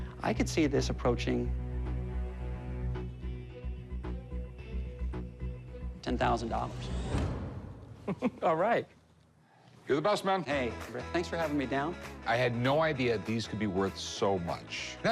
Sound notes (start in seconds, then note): 1.4 suspenseful music; 6.4 dramatic music; 8.0 chuckles